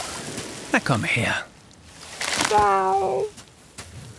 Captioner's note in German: klagend